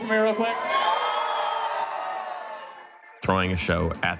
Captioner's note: crowd cheers